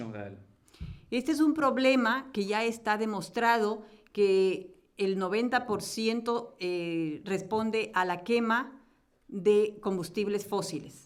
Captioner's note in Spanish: Español